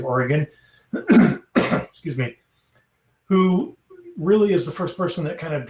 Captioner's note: coughs